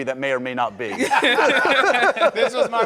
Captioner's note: laughing